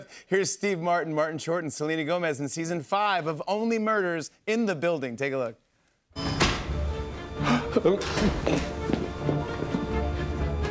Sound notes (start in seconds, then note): 6.2 dramatic music plays; 7.4 gasps